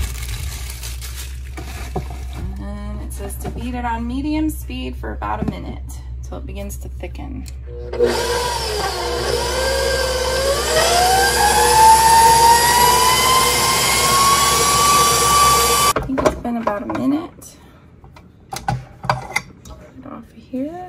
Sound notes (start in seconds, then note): 7.8 stand mixer motor running as I work in the kitchen